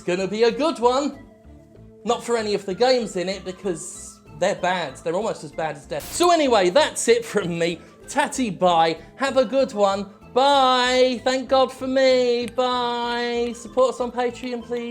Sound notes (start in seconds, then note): 6.0 static